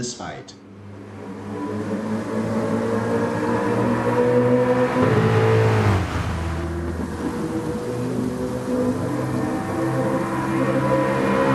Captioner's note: engines revving, cars noises, rain